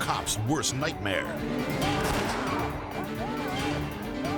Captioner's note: gun bangs